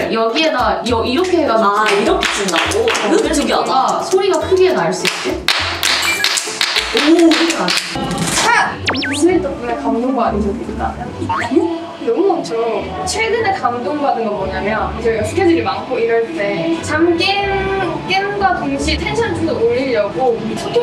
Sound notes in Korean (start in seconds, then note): 0.3 오른쪽 손을 왼쪽 손바닥에만 부딪히는 박수; 5.0 찰지다, 찰져 / 아기 명창 성량 닮은 박수 소리